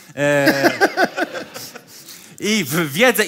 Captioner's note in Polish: śmiech